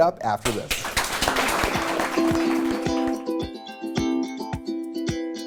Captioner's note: applause